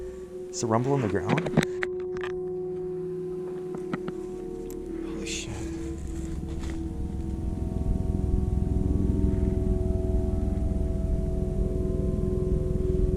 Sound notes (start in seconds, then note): 8.0 distant rumbling noise